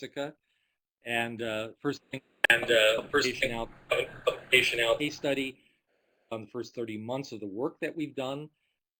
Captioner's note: audio skips